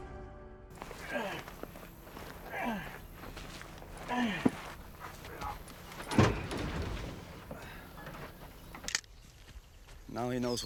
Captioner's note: grunting